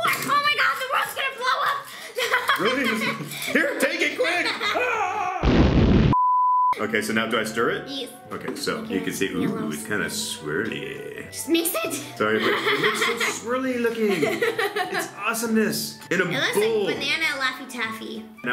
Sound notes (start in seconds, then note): 5.4 explosion; 6.1 beep